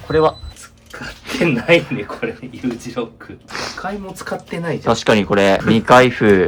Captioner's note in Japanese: 鼻息